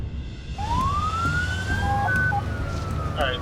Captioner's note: sirens